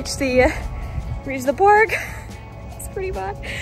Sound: laugh

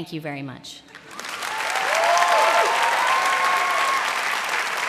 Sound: cheering and applause

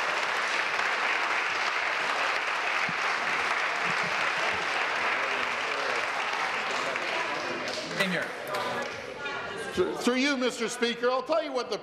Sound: applause

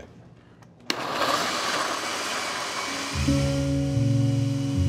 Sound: blenders whirring

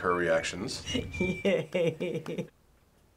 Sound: chuckles; chuckling; chuckles; silence

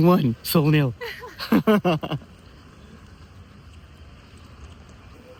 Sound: loud laughter

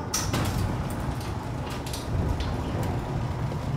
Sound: mechanical door opens

